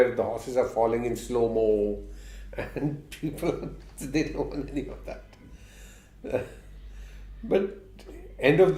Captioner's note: laughs